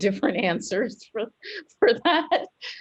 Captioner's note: laughter